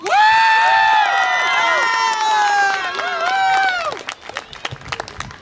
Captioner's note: audience applause and cheer